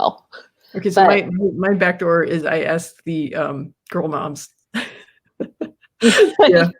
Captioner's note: laughs